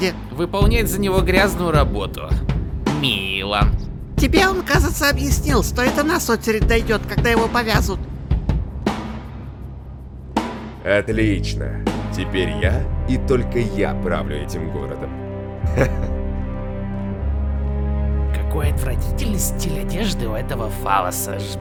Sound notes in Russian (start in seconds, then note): 15.7 смеется